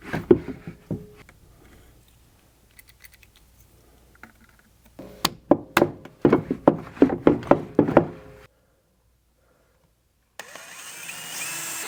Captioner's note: sawing